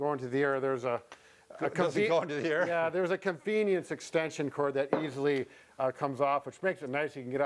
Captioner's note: laughing